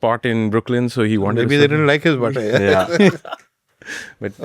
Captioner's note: laughs